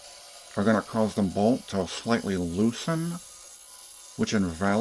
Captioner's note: reddit mod voice